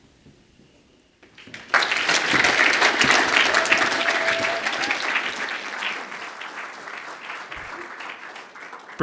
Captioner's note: audience applauds